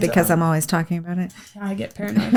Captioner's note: laughs